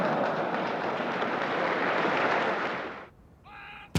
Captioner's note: crowd applauds